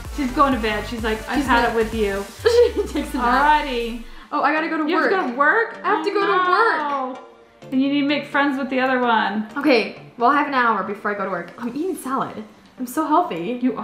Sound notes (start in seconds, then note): 2.4 laughs